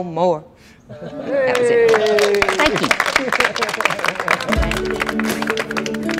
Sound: applause

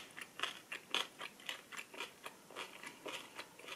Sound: listen to the sound of chewing cabbage; crunchy

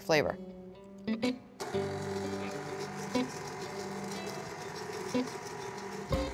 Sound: mixer running

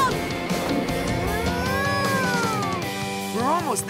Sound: mooing

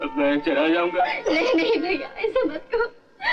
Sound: crying

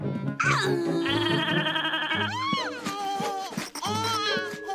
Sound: ivor vocalizes

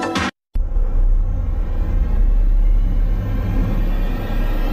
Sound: low-pitched loud rising note

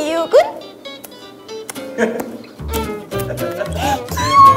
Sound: kissing

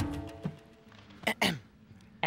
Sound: clears throat

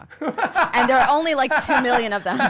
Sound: laughing

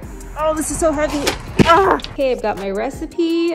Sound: shouts

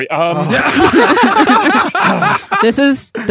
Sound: guests laughing; grunts

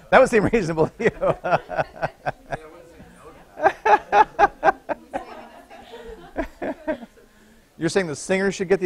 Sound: laughter

